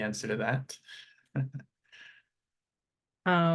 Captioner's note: chuckles